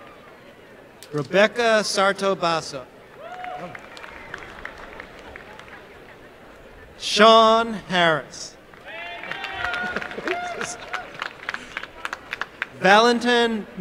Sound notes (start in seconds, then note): 3.1 applause; 8.7 applause and cheering